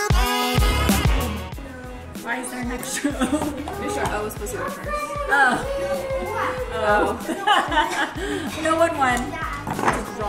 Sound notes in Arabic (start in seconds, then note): 6.8 كلاهما يضحك